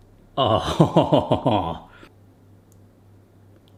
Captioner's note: chuckles